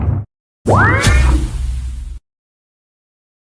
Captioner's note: explosion; mystical sound